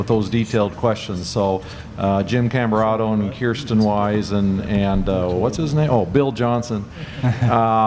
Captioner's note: laugh